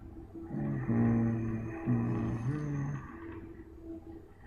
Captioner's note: humming